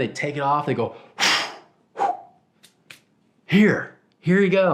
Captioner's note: blows